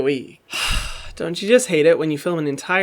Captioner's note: heavy sighing